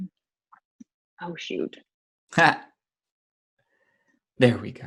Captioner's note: laughs